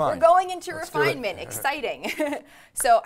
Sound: chuckles

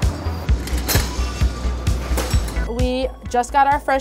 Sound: clanking

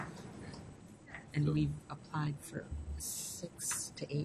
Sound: voiceover

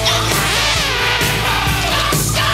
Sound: fly buzzes

